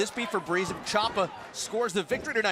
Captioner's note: crowd cheering